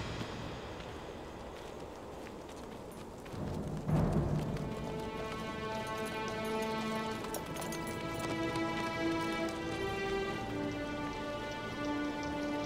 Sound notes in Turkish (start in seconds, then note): 1.6 Rüzgâr sesi; 5.5 Müzik - Gerilim